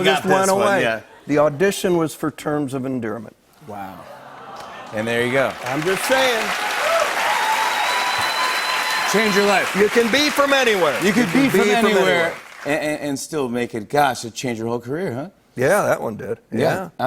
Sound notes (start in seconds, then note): 3.2 audience "ohs"; 6.2 cheers and applause